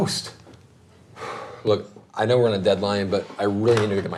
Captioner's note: sighs